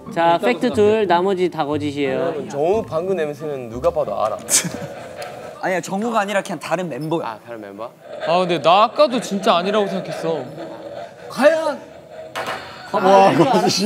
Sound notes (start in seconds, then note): 4.2 laughing